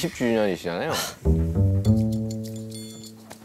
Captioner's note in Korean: 하아